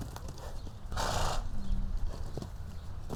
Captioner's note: horse chuffing